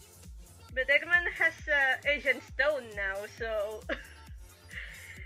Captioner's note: chuckle